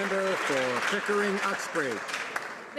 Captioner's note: some Applause